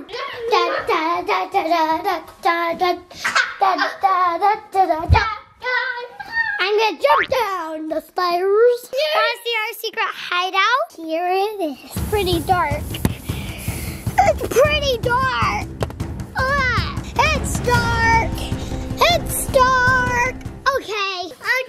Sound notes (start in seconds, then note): 0.1 hums tune while going down; 3.0 coughs